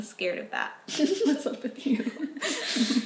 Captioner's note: chuckling